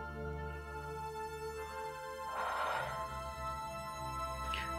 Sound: sighs

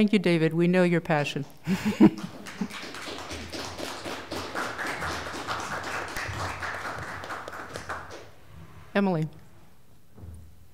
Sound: applause

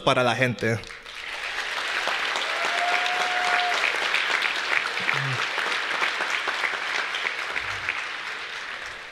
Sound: applause

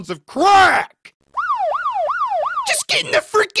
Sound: police sirens

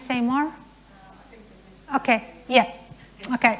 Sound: murmuring

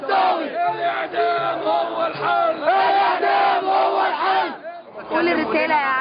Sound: chants

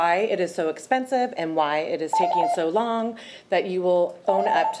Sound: timer beeps

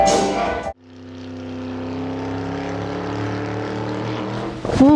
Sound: kart engine roars

